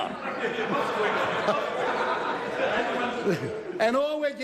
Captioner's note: laughs